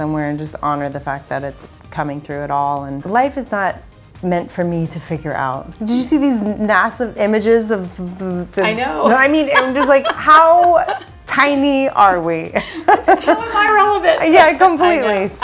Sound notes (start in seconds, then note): 12.2 chuckles